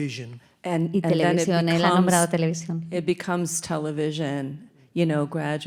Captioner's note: speaking in Spanish